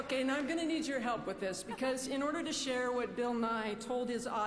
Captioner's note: applause